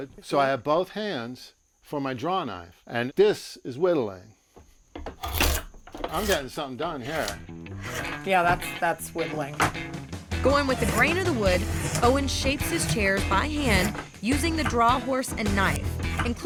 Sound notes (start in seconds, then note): 4.9 scraping